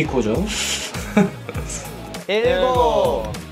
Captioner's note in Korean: 푸흐흡